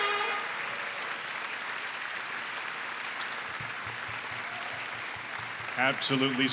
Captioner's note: applause